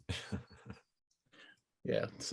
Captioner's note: laughing